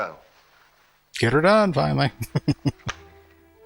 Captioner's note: chuckling